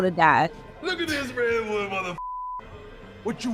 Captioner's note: beep